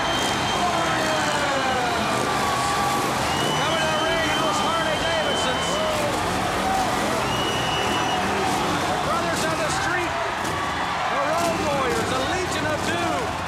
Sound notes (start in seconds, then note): 4.7 crowd cheering